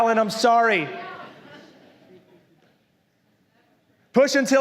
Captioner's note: congregación se ríe